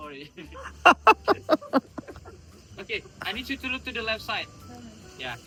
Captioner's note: loud laughter